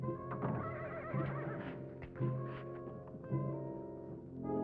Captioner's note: horse whinnying